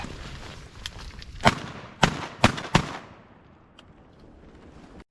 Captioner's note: gun shots